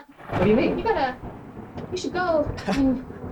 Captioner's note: thunder cracking; cricket